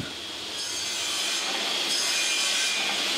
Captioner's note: milling whirring